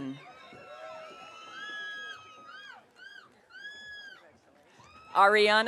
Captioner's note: audience cheering